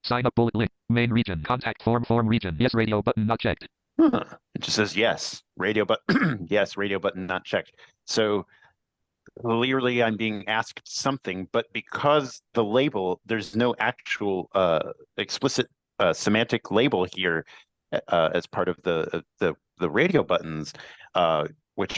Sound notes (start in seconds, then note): 0.0 computerized voice; 6.3 laughs